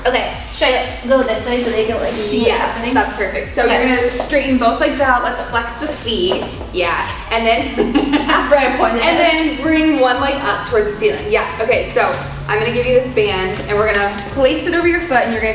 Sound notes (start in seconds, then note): 7.1 giggling